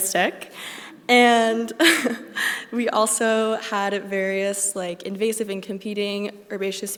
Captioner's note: laughs